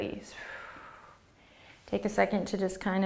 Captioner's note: exhaling